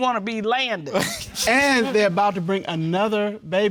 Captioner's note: laughs